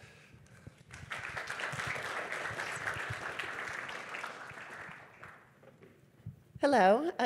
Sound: applause

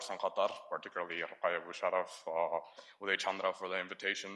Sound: speaks in foreign language

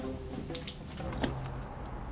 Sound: pen clicks

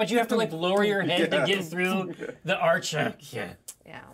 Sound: laughs

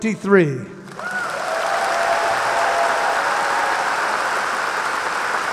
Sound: audience applauding

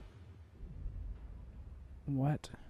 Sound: boom

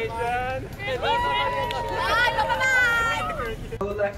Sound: crowd cheering

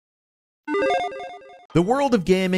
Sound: electronic chiming

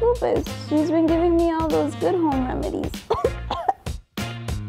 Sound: coughs

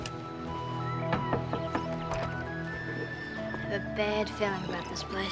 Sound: knocking at door

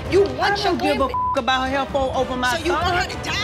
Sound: beep

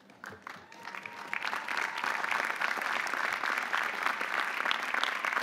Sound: audience applauding

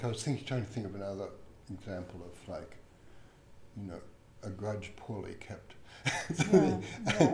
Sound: laughs

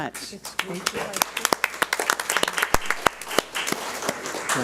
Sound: audience applauds

